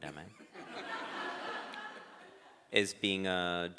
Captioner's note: crowd laughs